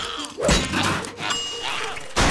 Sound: screaming; clanging

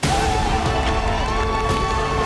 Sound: cheering; clapping

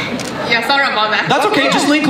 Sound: voiceover

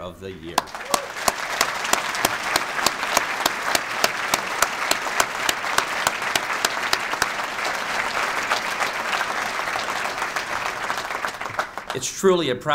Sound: clapping

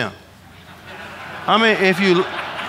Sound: audience laughing

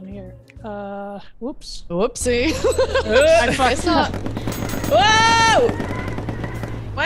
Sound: laugh

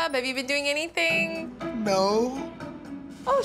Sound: hesitantly

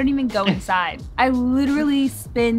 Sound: chuckles

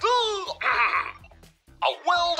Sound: clears throat

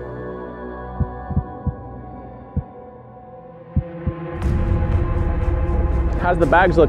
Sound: suspenseful music; heartbeat thumps

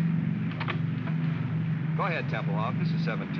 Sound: radio set clatters

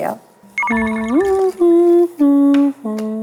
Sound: humming

